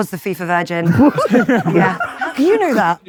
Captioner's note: group laughing